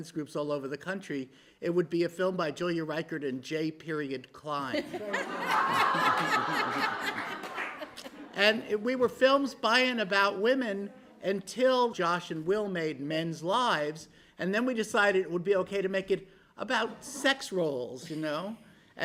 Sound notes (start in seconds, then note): 4.8 laughter, applause